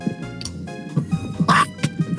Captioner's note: scream